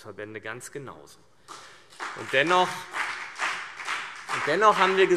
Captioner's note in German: Beifall CDU und BÜNDNIS 90/DIE GRÜNEN